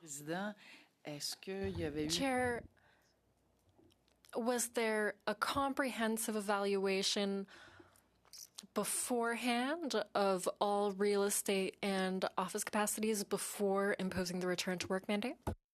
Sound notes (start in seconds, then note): 3.5 speaking in French